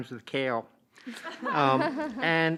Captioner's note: laughter